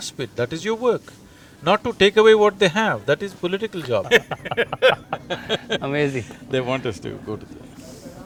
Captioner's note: laughter